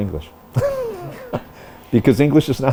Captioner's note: laughter